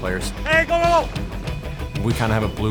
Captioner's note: player yells